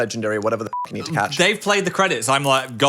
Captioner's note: beep